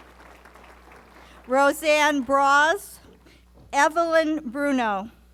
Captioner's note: applause